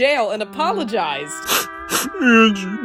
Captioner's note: sniffling